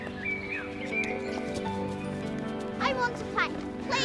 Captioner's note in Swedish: fåglarna kvittrar